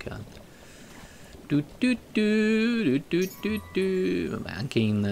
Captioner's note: I hum a song